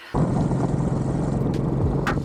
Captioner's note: motorbike engine; chill music